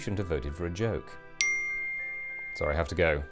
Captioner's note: ping